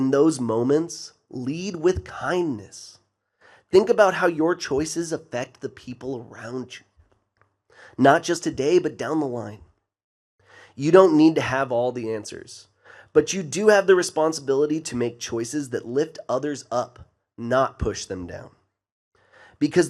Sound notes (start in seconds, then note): none